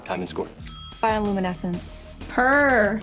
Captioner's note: ding